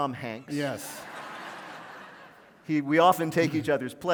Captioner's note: laughter